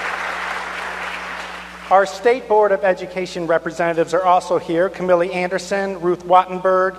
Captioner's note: applause